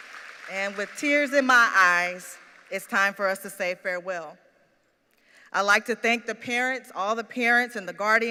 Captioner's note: applause